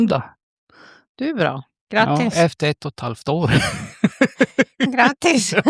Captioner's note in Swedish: skratt